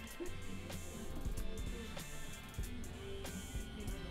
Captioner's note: laughter